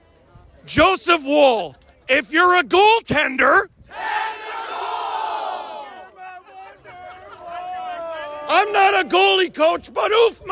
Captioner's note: various yelling